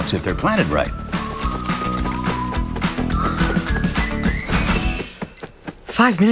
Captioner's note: watch beeping